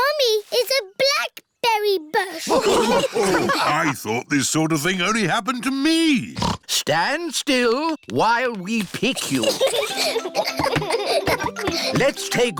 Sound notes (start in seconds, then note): 0.1 snorts; 2.4 all laughing; 6.3 snorts; 9.1 children giggle